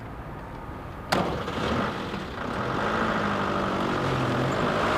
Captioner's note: engine rumbling